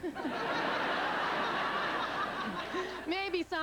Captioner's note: laughter